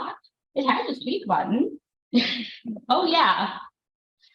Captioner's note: laughs